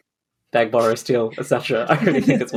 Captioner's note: laughs